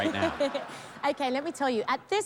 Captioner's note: laughter